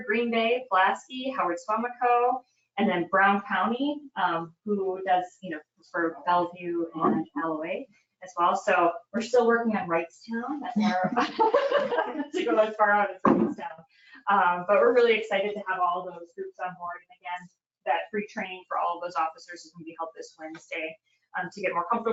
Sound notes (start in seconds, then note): 10.7 people laugh